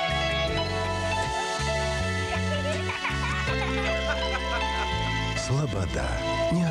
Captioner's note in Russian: смех